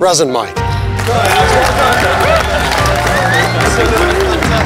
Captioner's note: applause